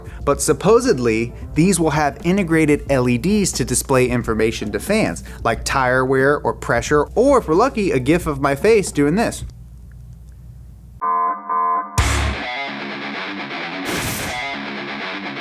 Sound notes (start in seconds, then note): 11.9 loud alarm buzzing; 11.9 heavy metal music